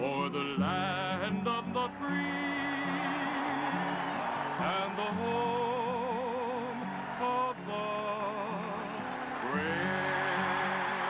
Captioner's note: cheering and applause